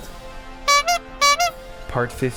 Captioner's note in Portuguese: fon fon